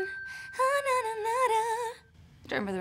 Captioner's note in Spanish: Hums